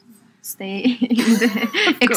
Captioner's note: laughs